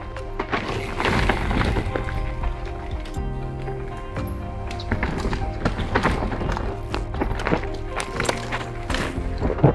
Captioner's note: tires crunching and rolling over earth